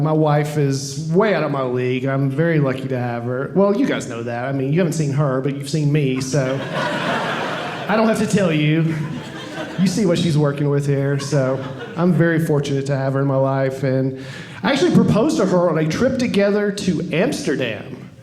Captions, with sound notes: My wife is way out of my league. I'm a very lucky to have her. Well, you guys know that. I mean, you haven't seen her, but you've seen me. So I don't have to tell you. (audience laughing) You see what she's working with here, so I'm very fortunate to have her in my life. And I actually proposed to her on a trip together to Amsterdam.